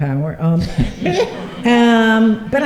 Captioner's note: laughter